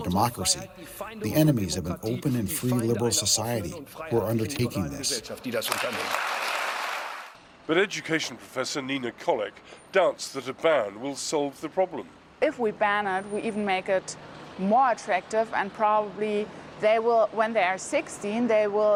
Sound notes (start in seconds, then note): 5.5 applause